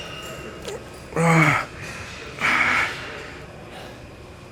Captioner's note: grunting